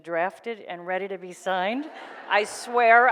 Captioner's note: audience laughs